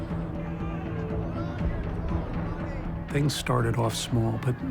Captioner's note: yelling in background